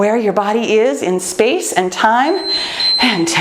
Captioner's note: timer beeps